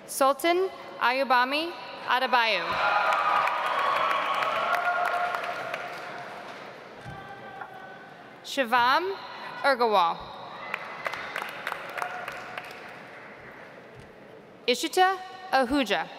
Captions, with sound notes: Sultan Ayobami Adebayo. (audience applauds) Shivam Agarwal. (audience applauds) Ishita Ahuja.